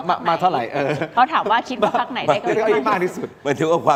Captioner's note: laughs